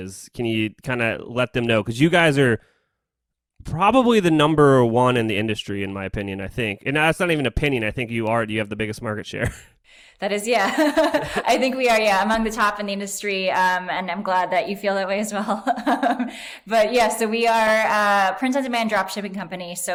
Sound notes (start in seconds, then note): 10.5 laughs; 15.5 laughs